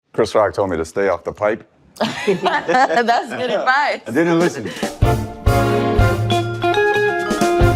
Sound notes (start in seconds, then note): 2.0 all laughing; 4.7 jazzy music